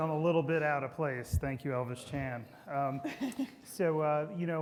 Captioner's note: everybody laughing